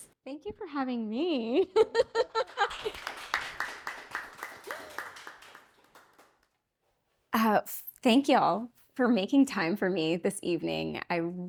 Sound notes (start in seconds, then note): 1.7 laughing; 2.4 audience claps